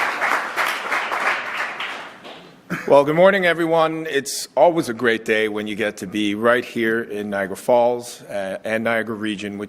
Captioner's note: applause